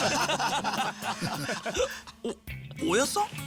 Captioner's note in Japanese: 笑い